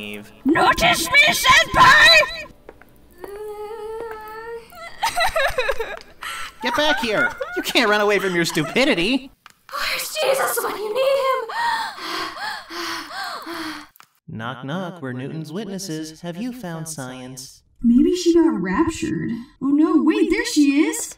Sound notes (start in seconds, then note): 2.9 whimpers; 4.9 crying